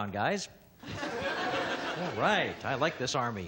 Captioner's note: audience laughing